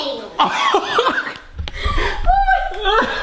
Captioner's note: laughing